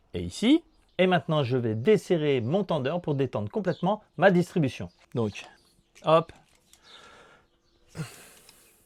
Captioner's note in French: soupir